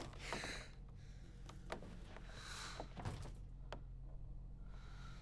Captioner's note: Susu breathes heavily